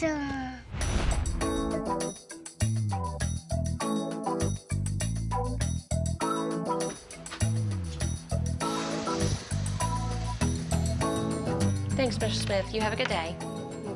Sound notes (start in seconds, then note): 7.2 opens door, footsteps